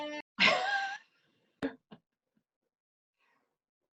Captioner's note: chuckles